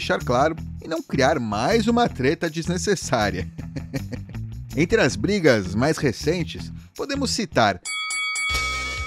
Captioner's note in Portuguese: risos